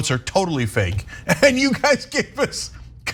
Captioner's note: laugh